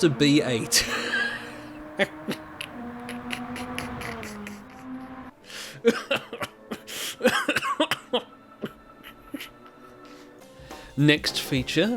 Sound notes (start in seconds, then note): 3.0 laughter; 5.5 laugther to the point of choking